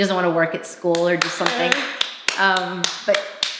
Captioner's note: claps